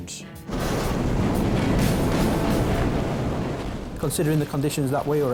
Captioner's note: waves roaring; bright music